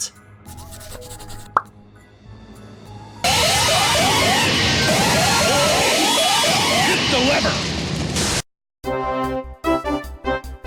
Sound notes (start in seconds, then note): 0.5 pencil scratching; 2.8 loud, grating sirens